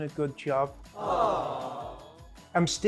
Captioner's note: people sighing